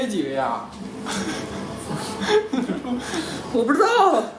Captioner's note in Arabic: يضحك